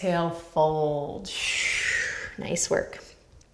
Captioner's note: exhaling breath